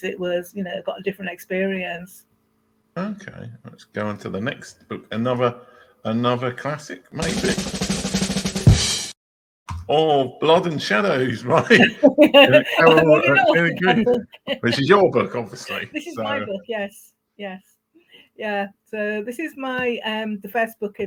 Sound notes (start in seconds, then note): 9.1 drum beat; 14.3 laughing